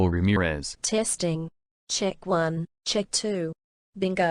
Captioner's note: In Principal Ramirez's voice